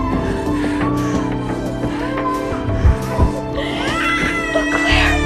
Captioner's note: baby crying